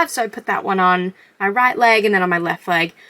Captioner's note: none